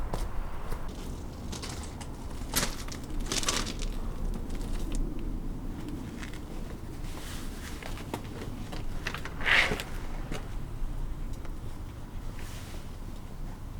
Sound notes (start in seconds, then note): 8.7 door opens